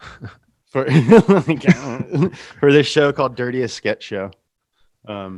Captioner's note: laughs